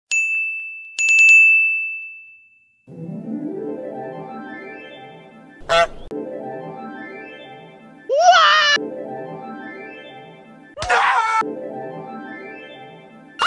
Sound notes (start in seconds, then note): 0.1 ding; 0.9 ding intensifies; 5.5 honk